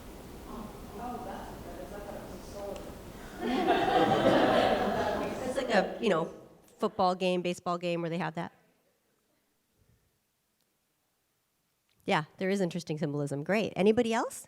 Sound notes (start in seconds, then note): 3.2 audience laughs